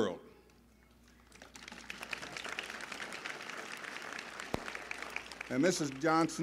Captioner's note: applause